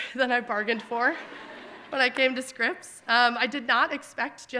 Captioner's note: audience laughing